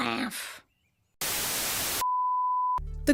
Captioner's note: static